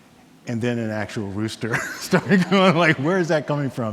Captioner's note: laughs